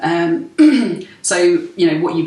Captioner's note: clears throat